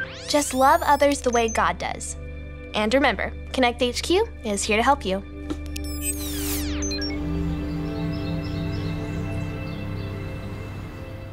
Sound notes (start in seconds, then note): 5.8 screen squeals